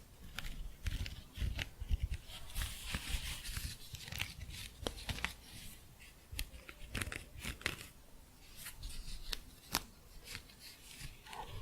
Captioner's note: scratching